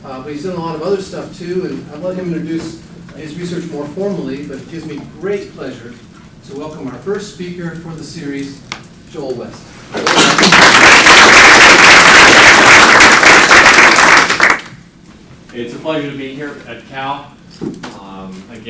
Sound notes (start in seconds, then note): 9.9 applause